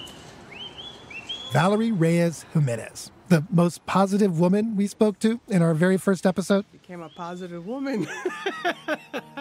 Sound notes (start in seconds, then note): 8.0 laughs